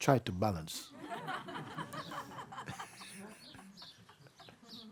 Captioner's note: laughter